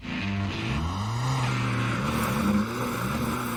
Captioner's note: Motor acelerando alto